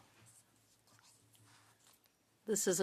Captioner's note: speaking french